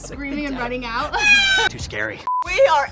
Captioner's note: screams; laughing